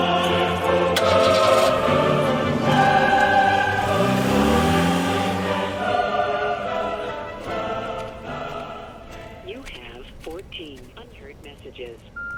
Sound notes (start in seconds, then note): 0.6 ignition starts